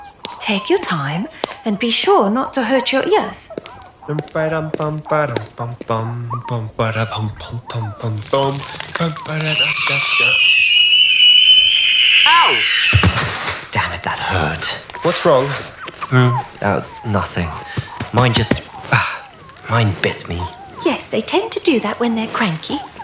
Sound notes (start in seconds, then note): 6.6 humming; 9.1 Mandrakes scream as they're repotted